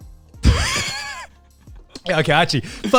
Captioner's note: chuckling